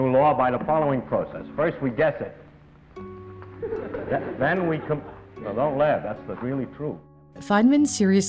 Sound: laughter

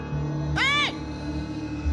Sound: screams

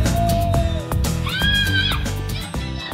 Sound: yelling

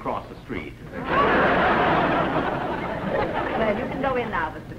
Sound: laughter

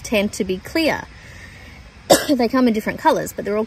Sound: coughs

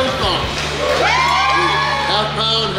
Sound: crowd cheers

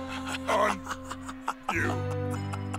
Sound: laughs

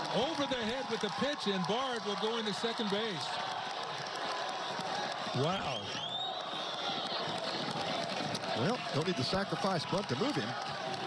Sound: cheering

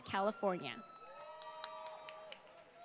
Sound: applause

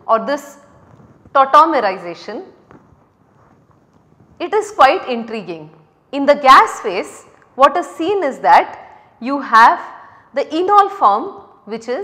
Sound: rubbing

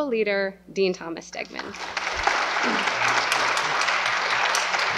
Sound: applause

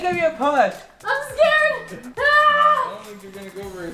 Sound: yells

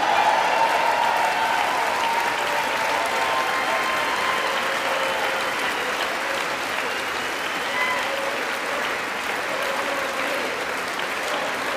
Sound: applause

